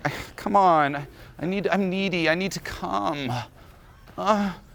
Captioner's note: moans